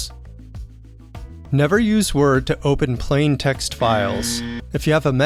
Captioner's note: buzzer sounds